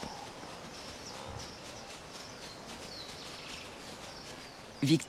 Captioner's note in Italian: cinguettii